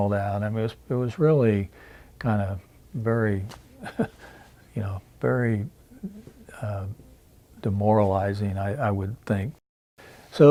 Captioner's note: chuckles